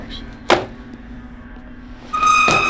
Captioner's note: high-pitched squeal